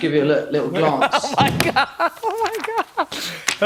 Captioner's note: laughing